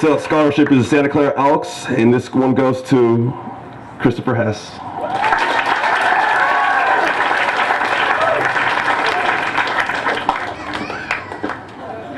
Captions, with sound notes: and this scholarship from Santa Clara Elks and this one goes to Christopher Hess [applause]